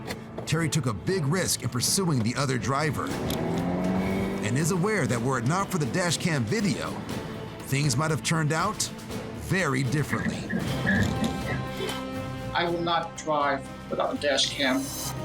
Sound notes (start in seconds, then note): 10.0 tires screeching